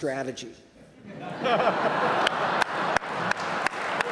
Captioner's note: audience laughs